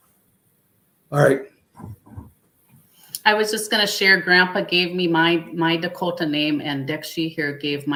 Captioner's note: speaking Dakota